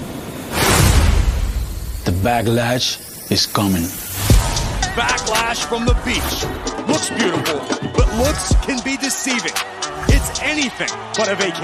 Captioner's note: speaking spanish